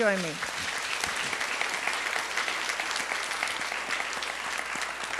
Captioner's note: audience applauds